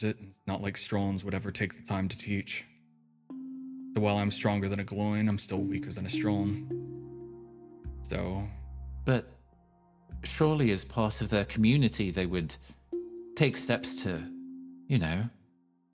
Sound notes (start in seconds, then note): none